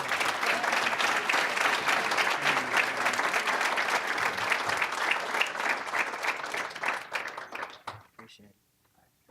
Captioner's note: applause